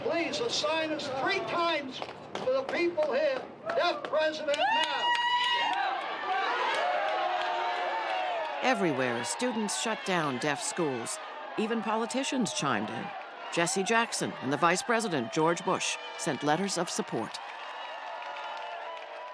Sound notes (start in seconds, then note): 6.1 cheers and applause